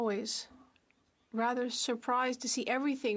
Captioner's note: speaking French